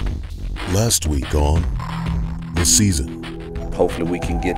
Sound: voiceover

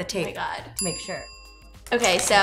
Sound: bell dings

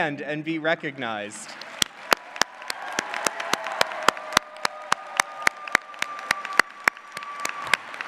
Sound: clapping

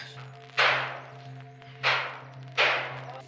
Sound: banging

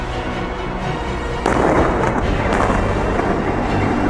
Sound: two explosions

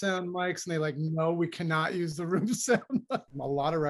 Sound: laughter

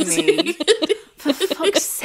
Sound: laughing

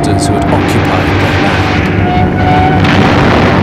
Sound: plane roaring; explosion booms; suspenseful music

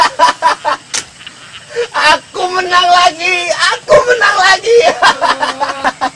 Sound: laughs

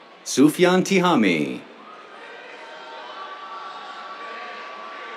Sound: cheers

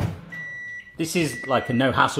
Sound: microwave beeps

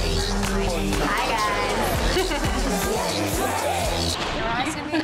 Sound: laughs

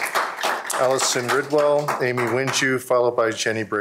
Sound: applause

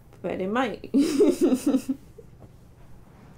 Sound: laughter

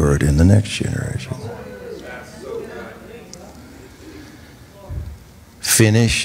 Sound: congregation reacts

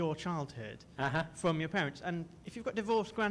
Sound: voiceover

